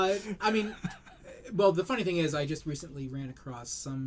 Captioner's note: laughter